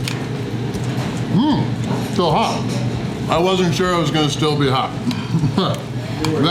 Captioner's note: laughter